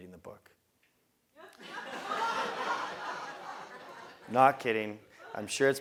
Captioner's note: laugh